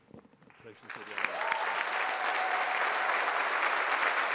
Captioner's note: all applauding